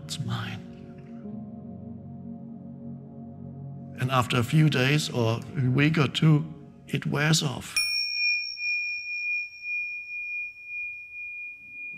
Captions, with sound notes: It's mine." (soft music) And after a few days, or a week or two, it wears off. (bell ringing)